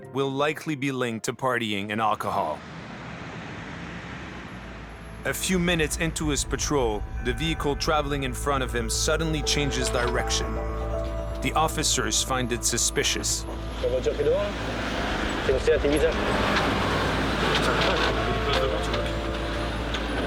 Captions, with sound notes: will likely be linked to partying and alcohol. A few minutes into his patrol, the vehicle traveling in front of him suddenly changes direction. The officers find it suspicious. [French spoken audio]